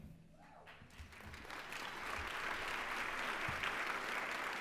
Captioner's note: applause